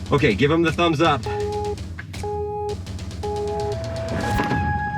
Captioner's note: countdown beeping